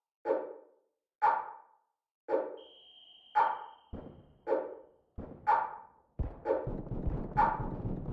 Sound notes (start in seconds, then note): 2.5 whistle blowing in the distance; 4.7 firefight